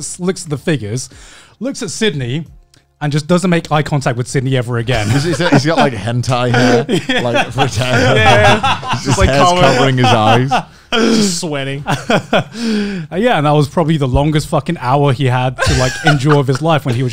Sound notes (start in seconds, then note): 6.3 laughing; 12.1 laughs